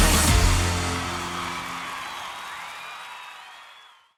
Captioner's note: crowd cheers